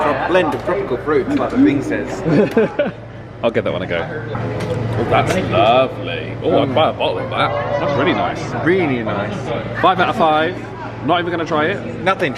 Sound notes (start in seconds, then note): 2.2 laughing